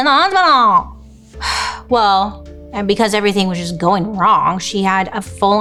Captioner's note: sighs